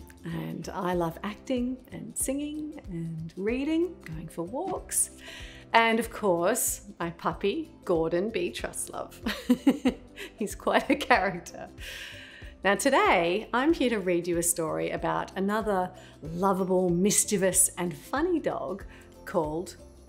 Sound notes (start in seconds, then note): 9.2 laughs